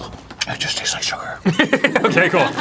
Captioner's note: arin, whispering